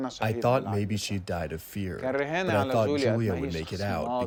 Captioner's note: through translator